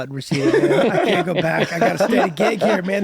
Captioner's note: laughter